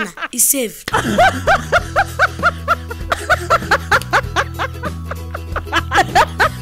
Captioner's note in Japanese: 笑い声